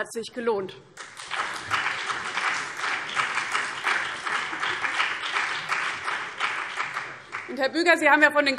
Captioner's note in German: Beifall BÜNDNIS 90/DIE GRÜNEN und vereinzelt CDU